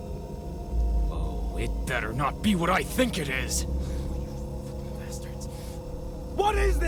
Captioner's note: whispering